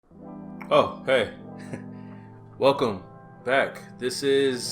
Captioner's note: chuckles